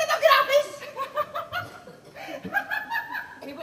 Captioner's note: νευρικό γέλιο